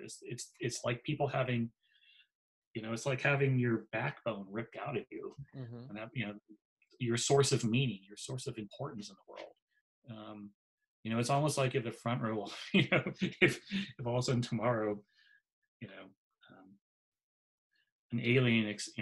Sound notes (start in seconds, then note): 12.5 laughs